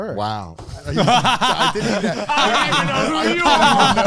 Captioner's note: laughs